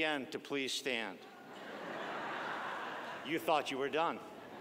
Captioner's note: audience laughing